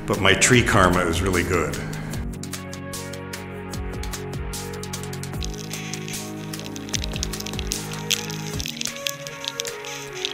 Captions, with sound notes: but my tree karma is really good. (gentle electronic music) (insects chirping)